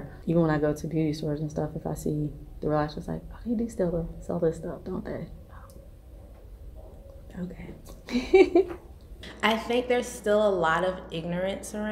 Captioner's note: laughs